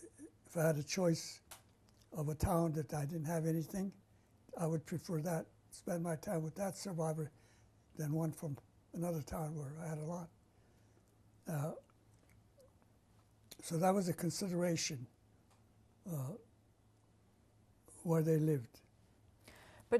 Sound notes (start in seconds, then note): 10.8 pauses for 3 seconds